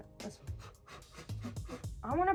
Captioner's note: blowing